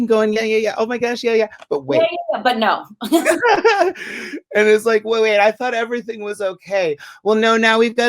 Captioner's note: laughter